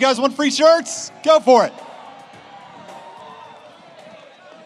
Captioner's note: audience cheers